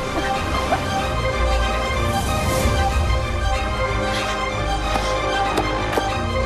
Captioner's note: coughs